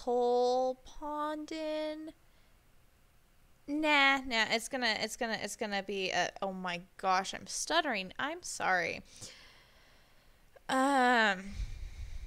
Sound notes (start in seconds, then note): none